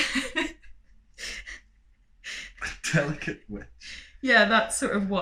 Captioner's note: laughter